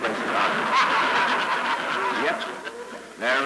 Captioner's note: laughter